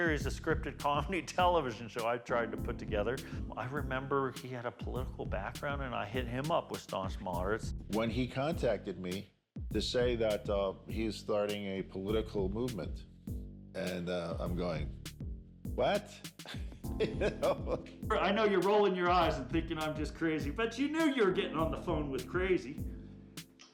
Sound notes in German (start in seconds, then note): 17.0 lacht